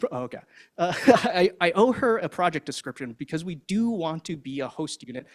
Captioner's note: laughs